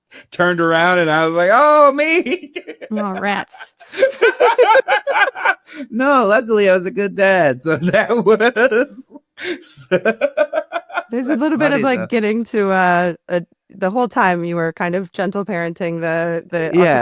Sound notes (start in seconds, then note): 4.4 laughing; 8.2 laughs